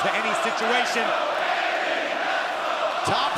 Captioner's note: fans chanting